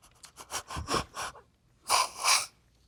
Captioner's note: sobbing